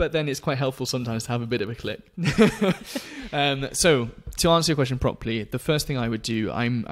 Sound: laughs

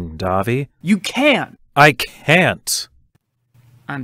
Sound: standing and shouting

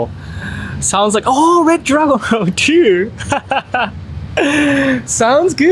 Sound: laughs

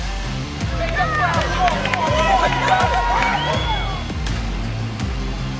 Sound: cheering and clapping

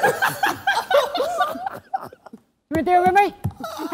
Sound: laughter

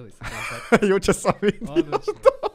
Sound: laughing

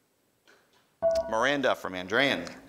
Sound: ding

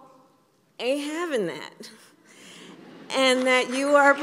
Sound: laughter and applause

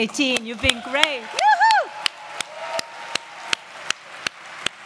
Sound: applause

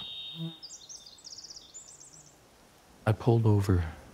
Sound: bird singing

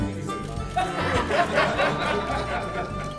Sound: applause

